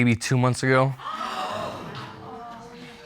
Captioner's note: audience gasping